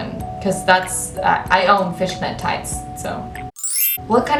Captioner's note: sparkle sound effect